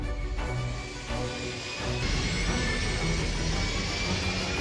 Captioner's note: ship engine revs